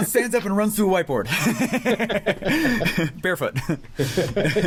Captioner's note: laughter